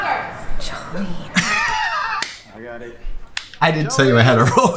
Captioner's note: laughs